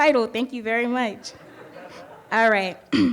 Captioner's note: audience laughing